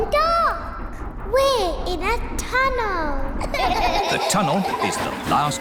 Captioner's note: all gasp; all laugh